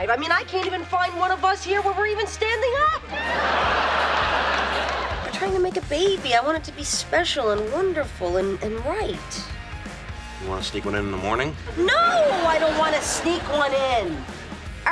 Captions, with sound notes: I mean I can't even find one of us here where we're even standing up. (laughing) We're trying to make a baby. I want it to be special and wonderful and right. You wanna sneak one in the morning? No! I don't wanna sneak one in!